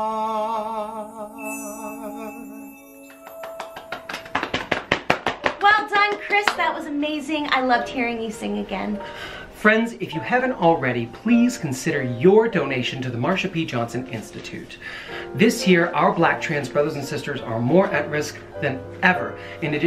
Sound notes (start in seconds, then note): 3.1 clapping